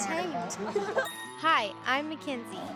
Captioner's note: laughing